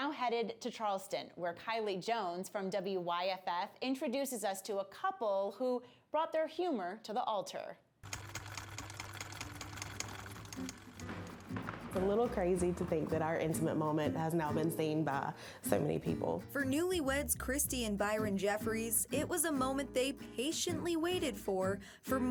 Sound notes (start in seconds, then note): 8.1 typewriter keys clack